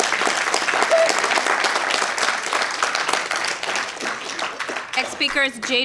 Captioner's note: applause